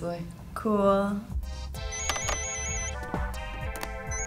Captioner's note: phone rings